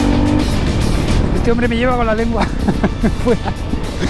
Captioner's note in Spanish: risas